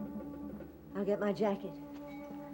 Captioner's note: Martha, over music